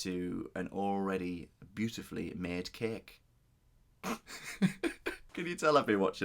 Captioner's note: laughing